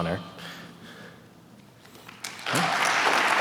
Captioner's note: applause